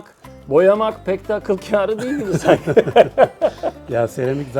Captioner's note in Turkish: kahkaha